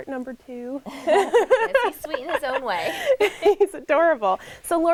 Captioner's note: laughter